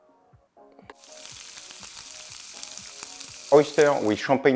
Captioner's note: sizzling sound